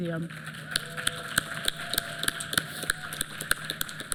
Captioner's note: applause